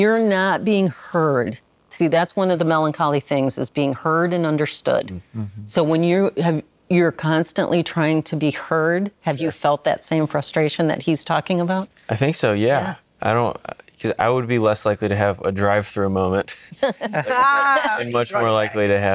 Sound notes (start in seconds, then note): 16.5 laughing